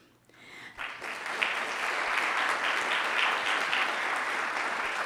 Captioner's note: audience applauding